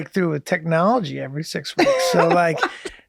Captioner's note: Rob laughs